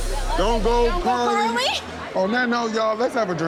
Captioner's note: laughing